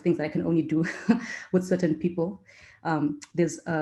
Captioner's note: laugh